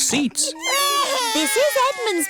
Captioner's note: babies crying